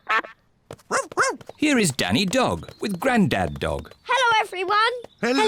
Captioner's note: quacks; barks